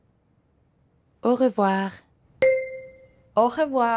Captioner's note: ring